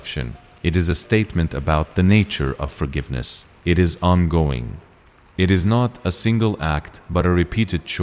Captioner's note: nature